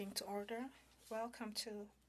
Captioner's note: speaking in French